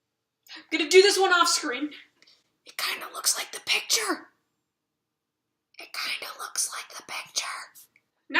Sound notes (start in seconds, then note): 4.9 whisper